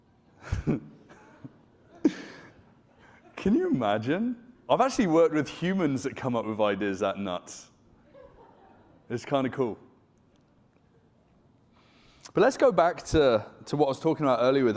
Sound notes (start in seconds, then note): 0.4 chuckles